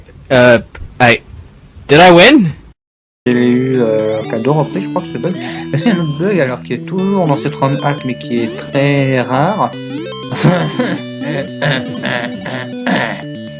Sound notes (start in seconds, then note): 10.1 cough; 12.6 couuuuuugh